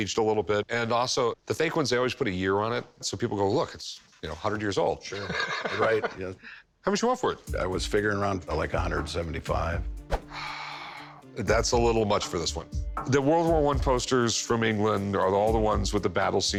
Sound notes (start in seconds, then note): 5.1 laughs; 10.3 sighs